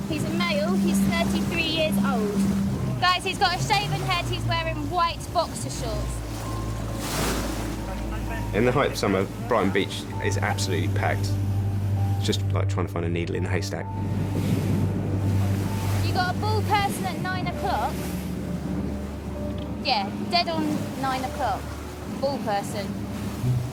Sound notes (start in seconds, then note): 6.6 tense music; 6.6 water splashing